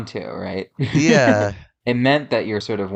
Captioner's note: laughs